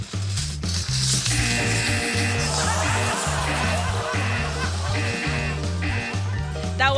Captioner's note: buzzer sounds multiple times